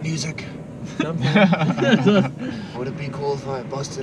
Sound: laughing

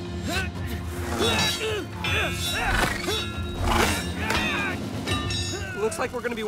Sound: grunting

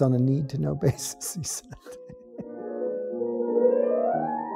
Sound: laughs

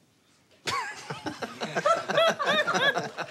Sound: laughing

